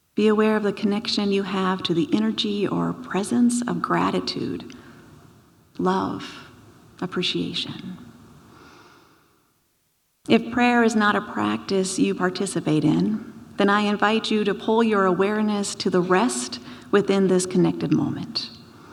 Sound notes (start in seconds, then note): none